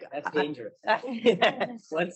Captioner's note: laughter